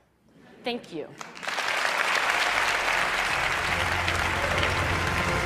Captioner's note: Applause